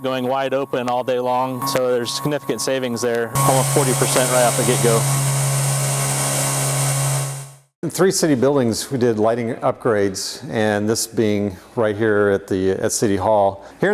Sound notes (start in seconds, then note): 3.3 engine revving